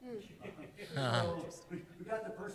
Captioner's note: laughter